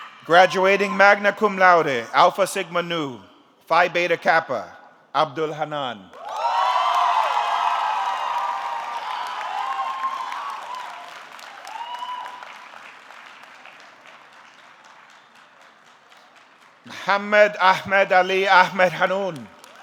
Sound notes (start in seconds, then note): 6.2 audience cheering; 7.1 audience clapping